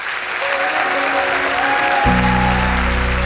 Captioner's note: applause